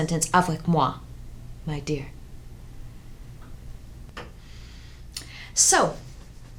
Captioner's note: woman speaks foreign language